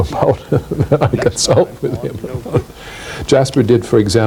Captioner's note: laughing